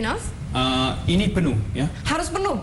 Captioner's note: non-english speech